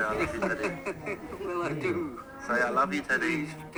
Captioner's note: laughs